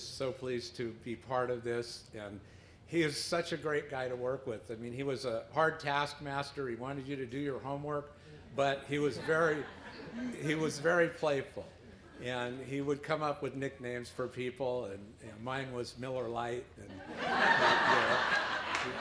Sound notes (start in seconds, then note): 16.9 laughter